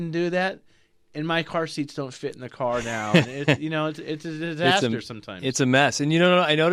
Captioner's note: laughs